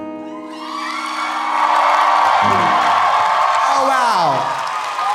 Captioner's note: audience cheering; audience applauding